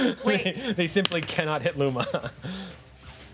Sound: laughs

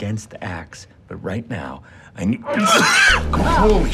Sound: coughs

